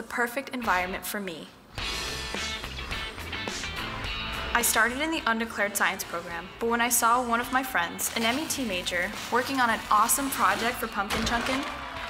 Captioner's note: applause